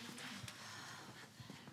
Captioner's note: Cassie sighing